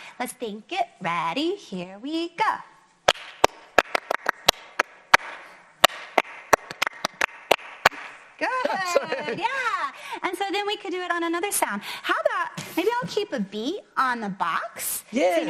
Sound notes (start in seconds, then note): 3.0 clapping to the rhythm